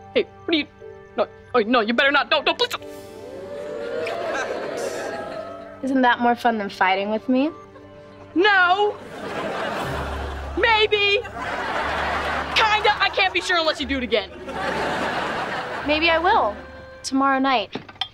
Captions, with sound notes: Wait, what are you-- No-- No you better not-- No, no please do-- [kissing] Isn't that more fun than fighting with me? No! [laughing] Maybe. [laughing] Kinda... I can't be sure unless you do it again. [laughing] Maybe I will... Tomorrow night.